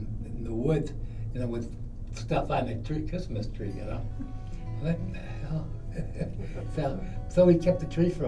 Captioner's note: chuckles